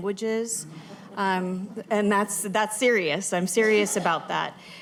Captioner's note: laughter